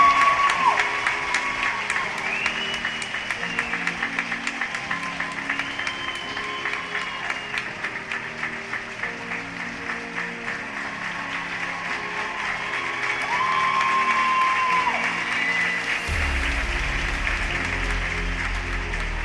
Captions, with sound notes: Boston Tyler Shemer. [APPLAUSE]